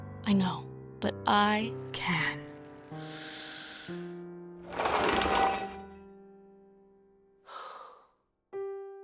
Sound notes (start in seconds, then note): 2.9 sharp inhale; 7.3 exhale